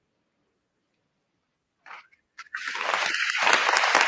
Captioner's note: applause